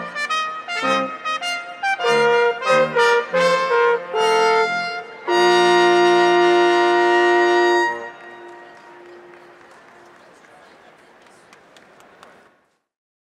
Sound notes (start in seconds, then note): 6.6 royal instrumental music fades; 7.8 audience applauding